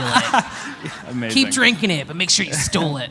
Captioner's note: laughter